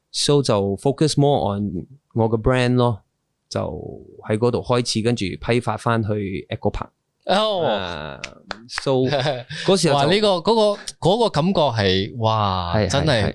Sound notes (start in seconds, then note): 8.2 clap Clap